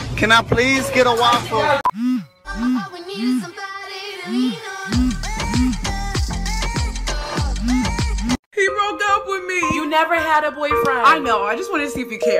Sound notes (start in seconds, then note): 1.9 phone vibrates